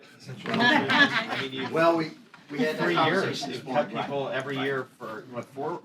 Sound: laughter

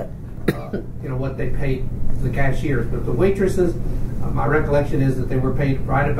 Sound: coughs

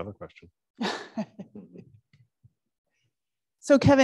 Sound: chuckling

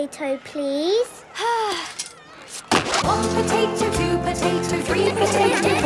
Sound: Belinda sighing; laughter

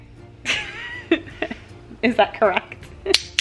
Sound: giggling

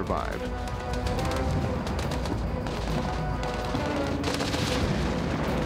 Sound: explosion and gun fires

